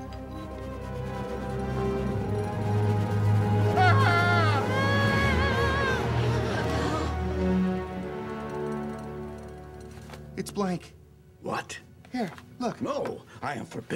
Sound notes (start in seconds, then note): 0.1 majestic music; 3.7 screaming